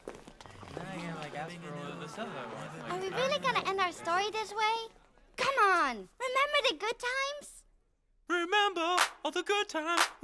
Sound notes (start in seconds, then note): 0.0 crowd mumbles and walks away